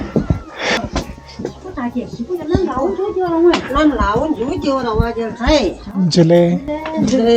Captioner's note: speaking in the local language